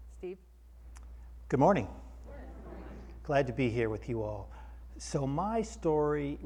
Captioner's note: audience in unison